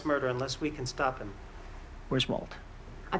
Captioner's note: none